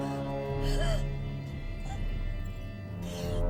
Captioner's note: gasping